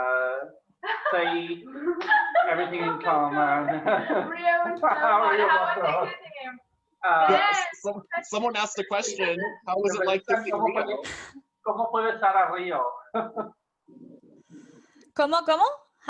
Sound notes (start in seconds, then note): 3.8 laughs; 7.2 voices exclaim